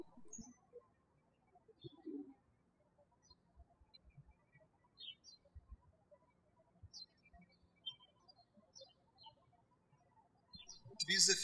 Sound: birds chirping

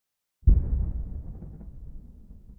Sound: faint boom

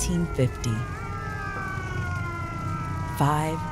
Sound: <i>sirens slow</i>

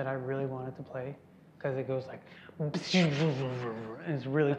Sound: beatboxing

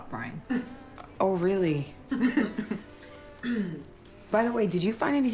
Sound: chuckles

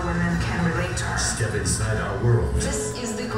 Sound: voiceover

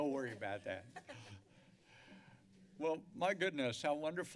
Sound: laughter

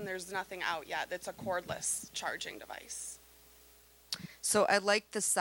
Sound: none

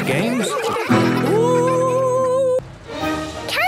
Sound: laughter

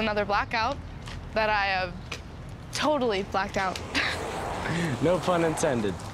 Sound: laughs

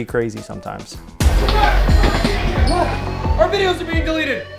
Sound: shouting

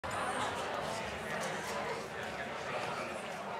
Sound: crowd chatter

